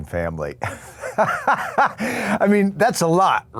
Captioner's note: Walton laughing